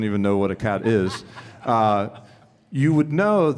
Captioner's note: attendee laughs